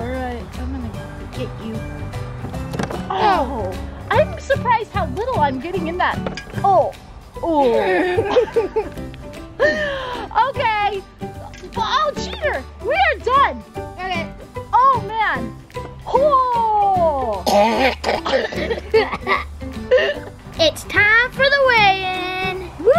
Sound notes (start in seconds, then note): 7.7 laughing; 17.4 coughing